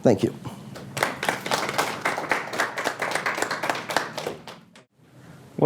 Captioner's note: applause